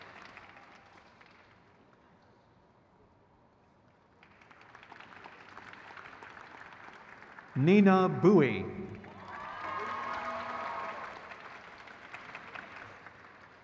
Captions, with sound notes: Christina C. Clinton. (crowd claps)